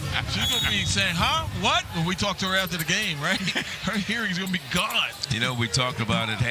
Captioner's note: laughter